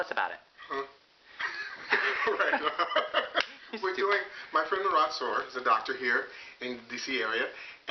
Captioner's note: laughs